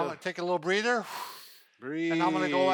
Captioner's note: exhales